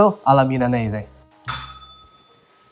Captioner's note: bell rings